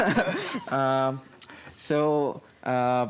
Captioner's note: laughing